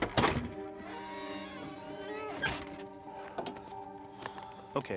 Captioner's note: door squeaks